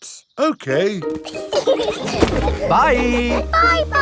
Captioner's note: laughing